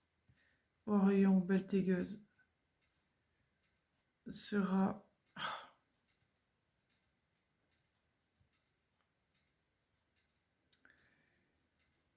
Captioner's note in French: soupir